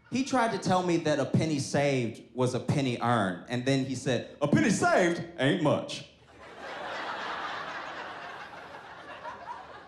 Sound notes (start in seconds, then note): 6.2 audience laughs